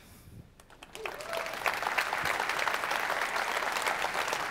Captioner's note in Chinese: 鼓掌